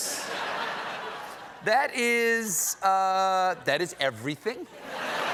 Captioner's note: laughter